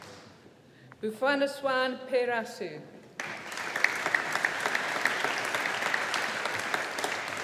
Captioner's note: audience applauding